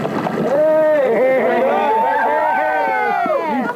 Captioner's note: cheering